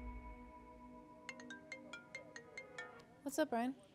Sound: ringtone plays

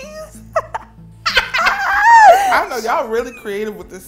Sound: laugh

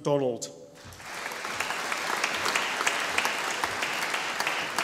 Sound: audience applauding

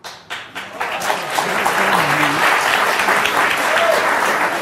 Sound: audience applause

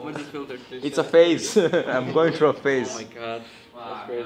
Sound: laughs

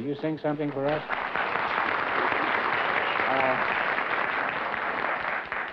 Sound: applause

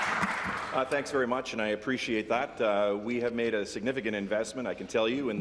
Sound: applause

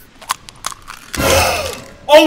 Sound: gasps

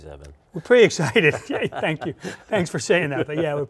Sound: chuckles

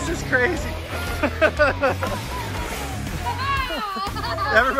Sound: laughs

